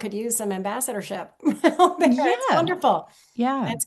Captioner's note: chuckles